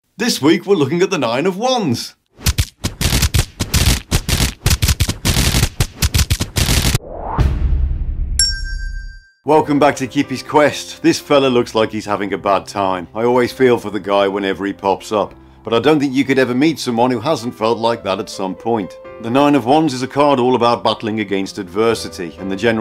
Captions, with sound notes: This week we're looking at the nine of Wands. [ SMACK SMACK SMACK SMACK ETC ] Welcome back to Kippi’s Kwest. This fella looks like he’s having a bad time, I always feel for the guy when he pops up. But I don’t think you could ever meet someone who hasn’t felt like that at some point. The 9 of Wands is a card all about battling against adversity and the